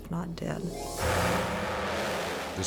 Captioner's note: engines roaring